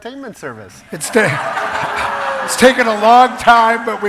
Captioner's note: laughs